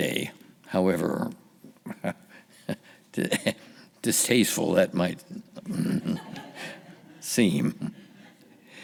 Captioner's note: laughing